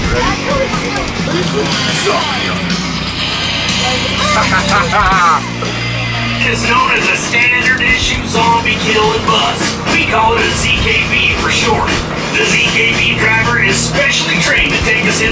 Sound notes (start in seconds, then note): 2.7 rock music; 3.8 laughing